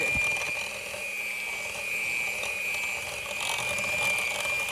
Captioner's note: blender machine roaring